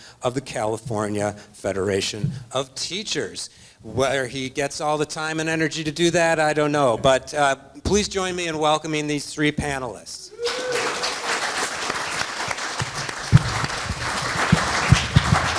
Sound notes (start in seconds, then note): 10.4 audience applauds